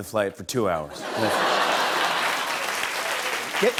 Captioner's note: applause